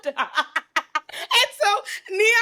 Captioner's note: laughs